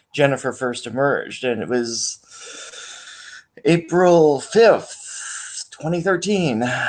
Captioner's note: inhales